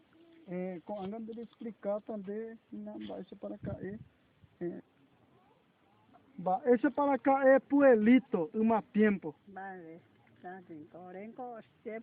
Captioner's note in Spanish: Hablan en guaraní – traducción a continuación